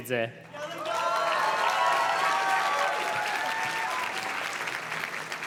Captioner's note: audience cheers and claps